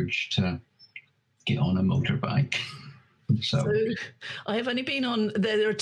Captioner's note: chuckles